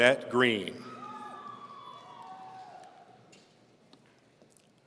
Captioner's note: audience cheering